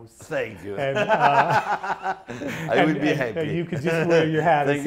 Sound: laughs

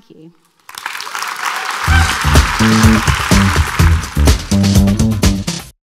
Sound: audience applauding; upbeat music

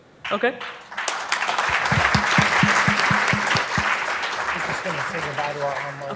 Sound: audience applauding

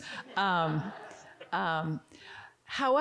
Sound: audience giggling

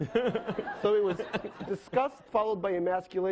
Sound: laughing

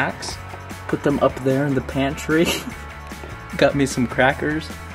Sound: laughs

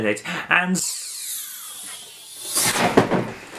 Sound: warping

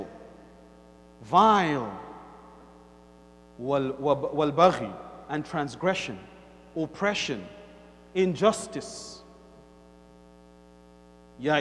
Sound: Arabic; Arabic; Arabic

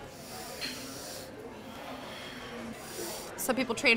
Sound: breathes deeply

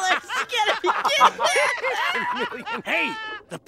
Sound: laughing

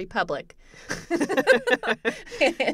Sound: laughter

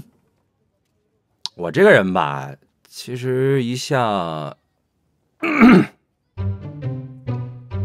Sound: clears throat

